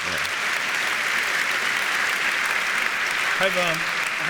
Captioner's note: audience applauds